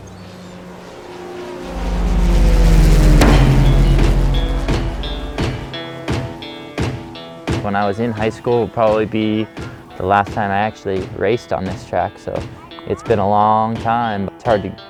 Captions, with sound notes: (airplane engine roars) (upbeat music) - When I was in high school, would probably be the last time I actually raced on this track, so it's been a long time.